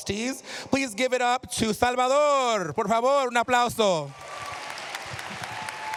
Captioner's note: speaking spanish; cheers, applause